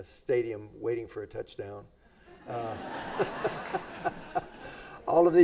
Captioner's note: everybody laughs